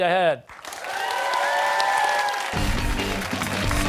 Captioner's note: cheers and applause